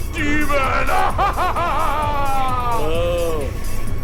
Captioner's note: laughs